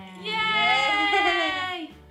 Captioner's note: cheering